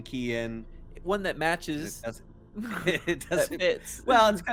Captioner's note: chuckles